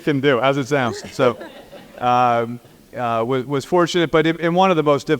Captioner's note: laugh